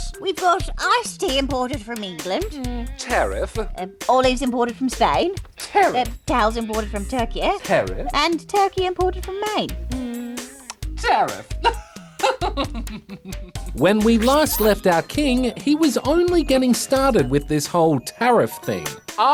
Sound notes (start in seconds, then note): 11.7 chuckles